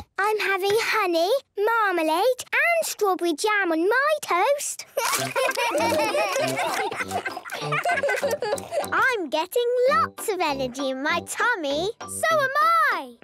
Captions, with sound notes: - I'm having honey, marmalade, and strawberry jam on my toast! - (giggling, chewing) - I'm getting lots of energy in my tummy! - So am I!